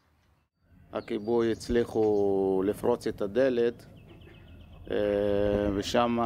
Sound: medic speaks foreign language

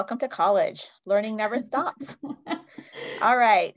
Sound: laughs

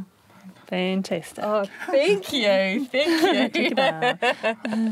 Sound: laughs

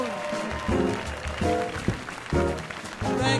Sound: cheers and applause

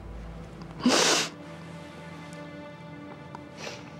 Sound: sniffles

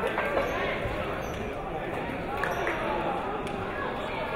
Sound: crowd chatter

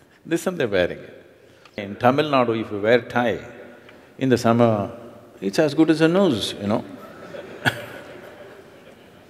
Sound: laughter

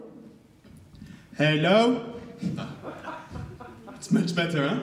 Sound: background laughter

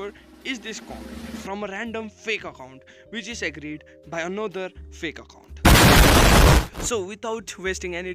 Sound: explosion

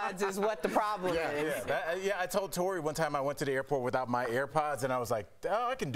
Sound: laughter

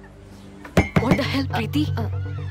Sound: banging table

